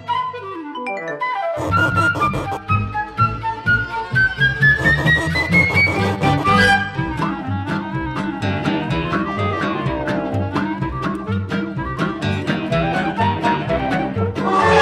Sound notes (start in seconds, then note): 0.0 lively music; 1.6 rubbing noise; 4.8 rubbing noise; 6.7 lively music; 14.6 dragging noise